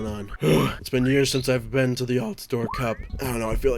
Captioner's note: loud sigh